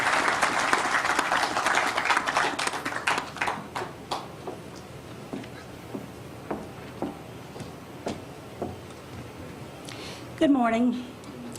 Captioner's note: applause